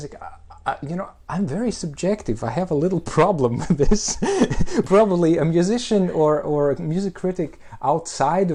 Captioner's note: laughs